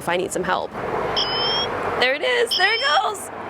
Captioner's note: alarm sounds